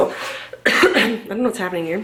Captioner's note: coughs